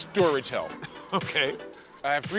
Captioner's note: chuckling